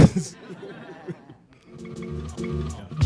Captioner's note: laughter